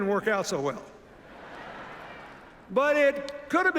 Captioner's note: laughter